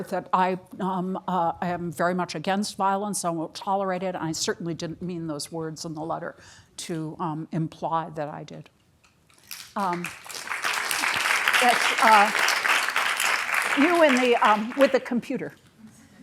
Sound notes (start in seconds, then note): 9.4 applause